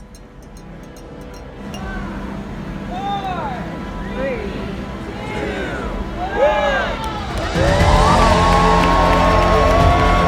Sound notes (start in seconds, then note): 3.3 crowd